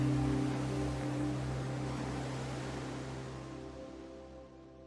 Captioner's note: waves on beach